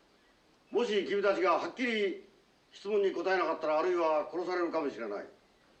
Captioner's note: speaking japanese